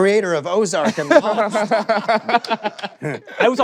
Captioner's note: laughter